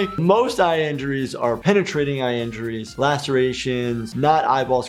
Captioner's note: none